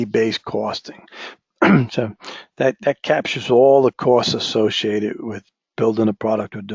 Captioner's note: cough